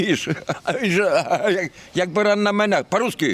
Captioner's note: laughs